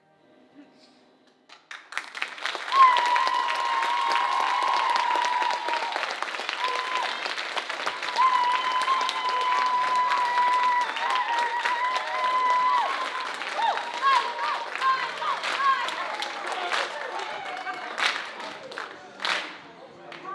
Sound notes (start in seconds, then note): 2.3 audience cheering and applauding; 16.3 group rhythmically clapping